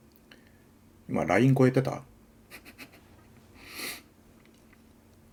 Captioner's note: laughing